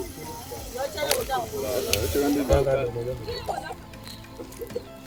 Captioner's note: villagers speaking Lingala